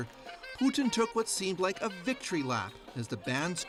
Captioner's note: applause